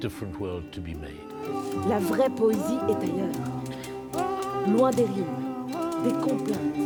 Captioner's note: women speaks in foreign language